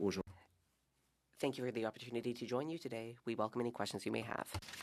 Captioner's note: speaking French